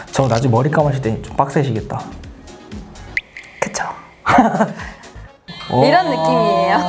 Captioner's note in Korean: 웃음